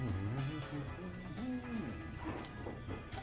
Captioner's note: humming